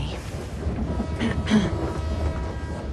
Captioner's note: train horn blowing; clears throat